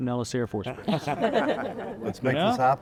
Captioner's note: all chuckling